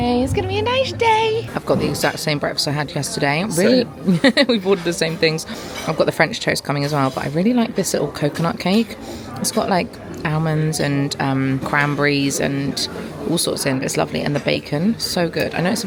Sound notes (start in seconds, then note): 3.7 laughing